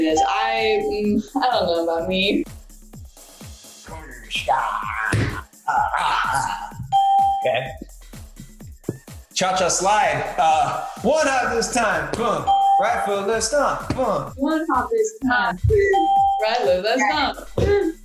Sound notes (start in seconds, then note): 4.1 ding; 4.1 grunting; 12.5 ding